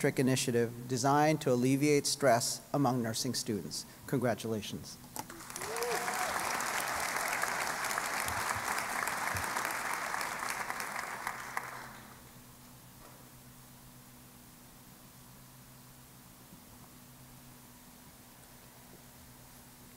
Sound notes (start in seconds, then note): 5.3 applause